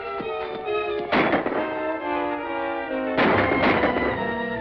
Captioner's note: gunshots